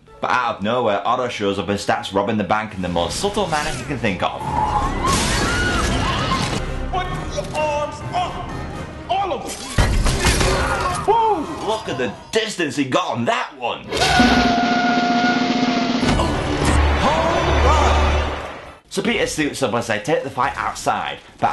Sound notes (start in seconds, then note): 4.4 screams; 4.8 glass breaking; 14.0 drum roll